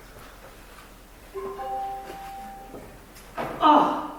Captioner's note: phone chimes